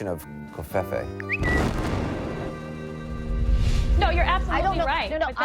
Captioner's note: bird tweeting; bomb exploding